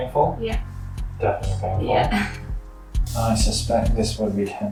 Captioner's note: chuckles